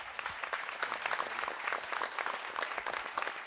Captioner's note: applause